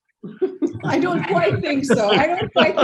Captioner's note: laughs